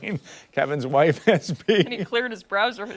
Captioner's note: laughter